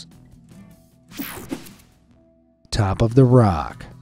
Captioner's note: screen whooshing